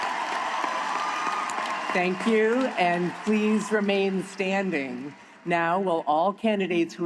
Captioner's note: applause